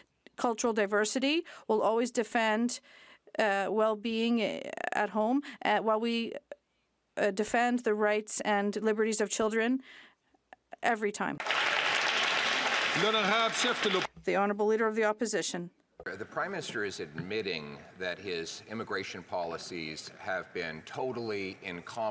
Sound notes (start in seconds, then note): 13.9 some Applause